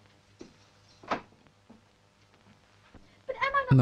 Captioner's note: door open; floor pattering